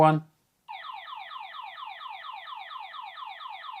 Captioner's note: alarm beeping